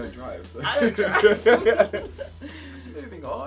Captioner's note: laughing